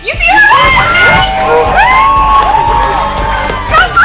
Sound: cheering

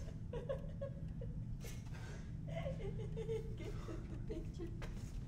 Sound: laughs

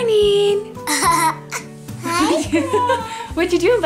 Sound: child laughing

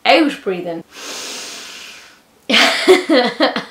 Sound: inhales deeply; laughs

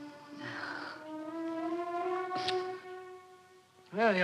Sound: Doris sighing

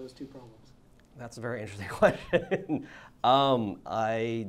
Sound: laughs

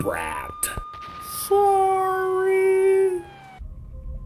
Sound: exploded

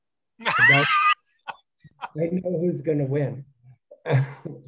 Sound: laughs

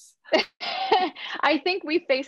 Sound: laughs

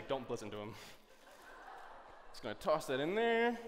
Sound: laughter

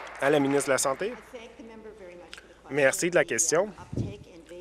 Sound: applause

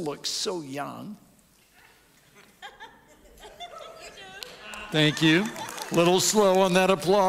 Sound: audience applauds

